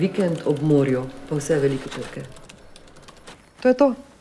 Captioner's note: typing